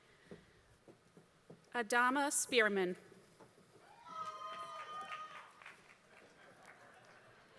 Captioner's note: applause